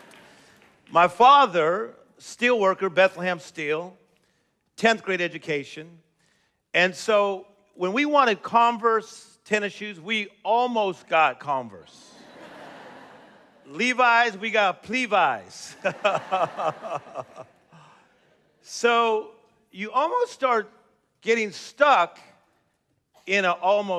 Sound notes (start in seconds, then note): 12.0 laughter; 15.7 chuckles